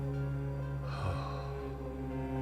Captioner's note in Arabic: أوسكار يتنهد